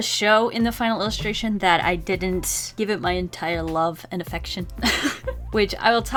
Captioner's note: laughs